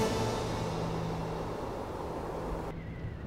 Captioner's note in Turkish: Rüzgâr sesi